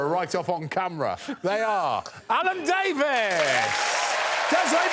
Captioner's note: audience applauding